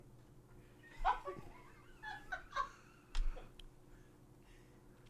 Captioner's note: crew laughs